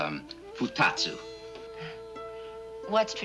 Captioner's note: speaking Japanese; chuckles